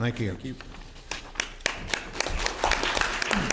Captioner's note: clapping